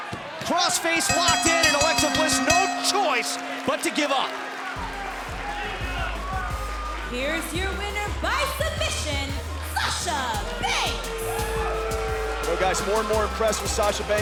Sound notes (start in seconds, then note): 5.5 bell ringing; 11.3 cheers & boos